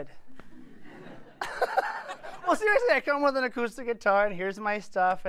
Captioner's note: laughter